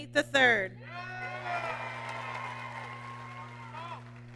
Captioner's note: applause